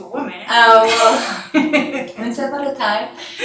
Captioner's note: chuckles